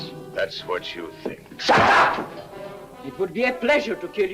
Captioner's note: hand slaps